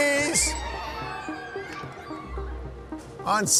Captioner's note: kids scream